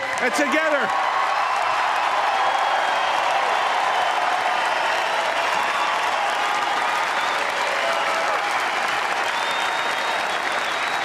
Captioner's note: applause